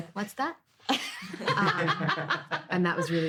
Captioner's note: all laughing